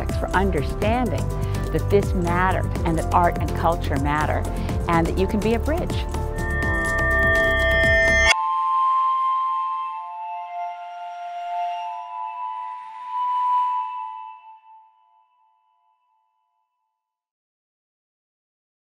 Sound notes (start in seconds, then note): 6.2 electronic swoop tones